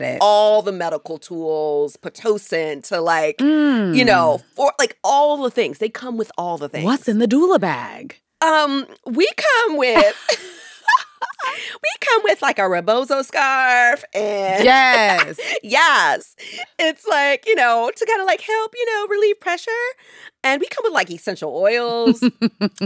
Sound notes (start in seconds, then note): 9.9 laughter